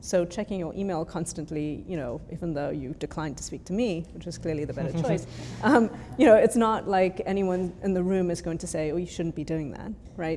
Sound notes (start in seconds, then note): 4.8 chuckles